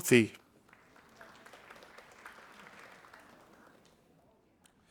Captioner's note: audience applauding